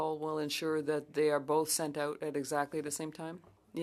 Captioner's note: speaking French